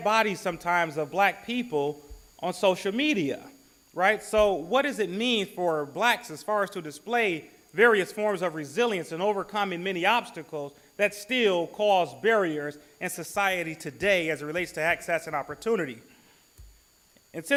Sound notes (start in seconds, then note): none